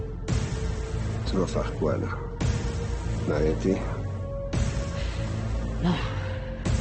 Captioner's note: LaFleur speaking in French